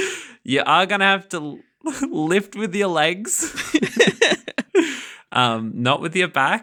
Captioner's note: laughing